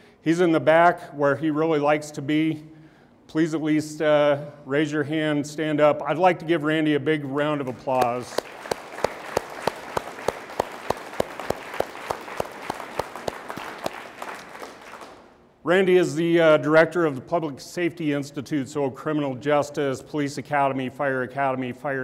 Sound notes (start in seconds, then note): 7.7 all applauding